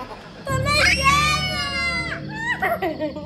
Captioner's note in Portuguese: Gritos